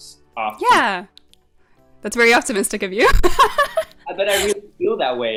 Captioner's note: laughs